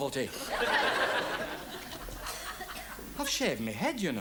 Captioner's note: audience laughs